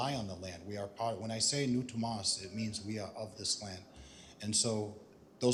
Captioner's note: non-english speech